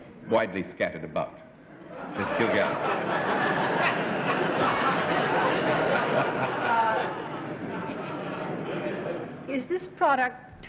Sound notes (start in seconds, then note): 5.0 laughter